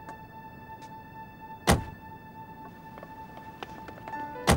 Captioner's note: car door thudding; car door thudding